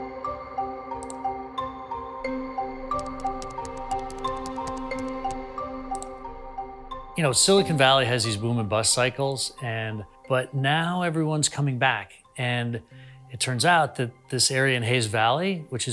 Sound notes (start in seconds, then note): 1.3 keyboard clacking; 1.3 mouse clicks